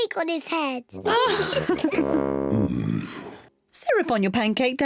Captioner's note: kids and mummy pig laugh